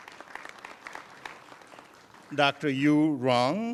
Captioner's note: applause